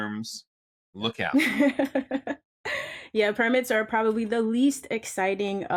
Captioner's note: chuckles